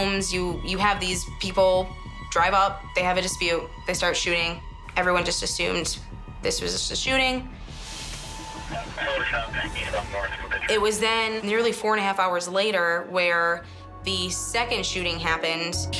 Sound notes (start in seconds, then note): 7.4 police radio chatter